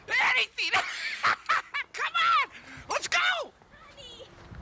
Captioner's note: laughs